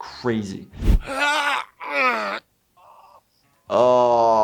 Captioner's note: grunts